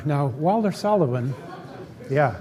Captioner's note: laughter